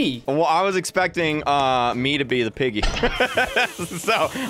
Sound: laughs

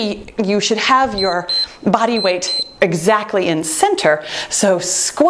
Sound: timer beeps

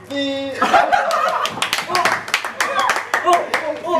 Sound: & Staff laugh

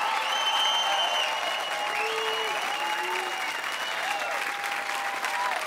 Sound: cheering and applause continues

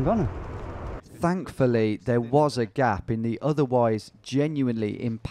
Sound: voiceover

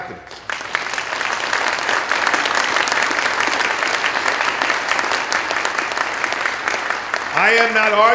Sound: applause

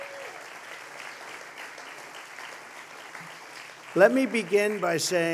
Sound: applause

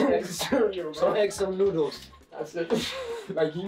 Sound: laughing

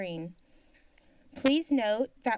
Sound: silence

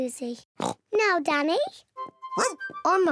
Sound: barks; oinks

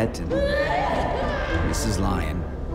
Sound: screaming

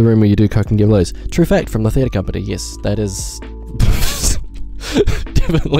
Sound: laughs

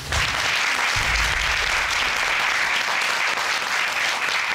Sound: audience applauding

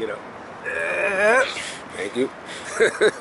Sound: heavy grunting; laughing

